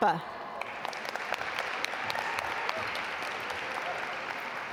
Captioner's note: audience applaud